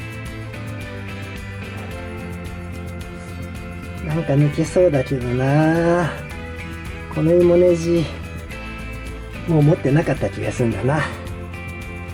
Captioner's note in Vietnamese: cười